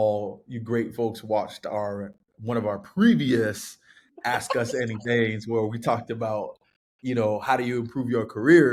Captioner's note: laughter